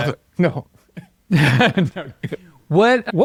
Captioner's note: speakers laughing